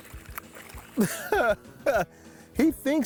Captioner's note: chuckling